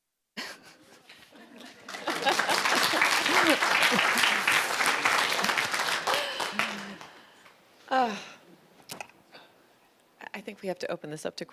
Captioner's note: applause